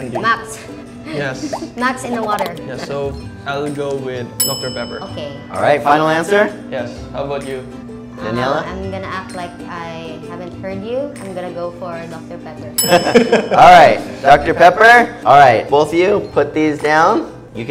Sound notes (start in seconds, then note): 12.8 all laughing